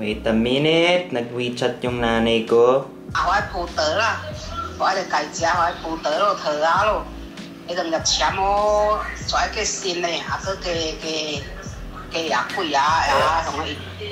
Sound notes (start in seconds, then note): 3.1 speaking in Mandarin